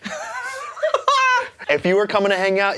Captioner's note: laughing